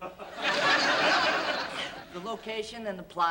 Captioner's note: laughter